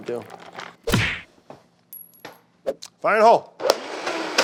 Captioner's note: punch blowing; blender whirring